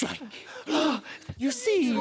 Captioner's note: gasping